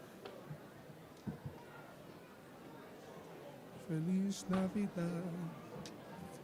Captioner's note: none